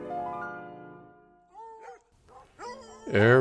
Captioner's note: hounds howling